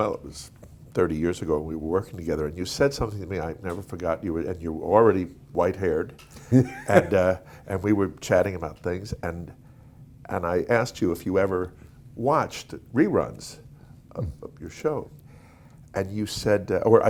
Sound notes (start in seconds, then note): 6.4 laughing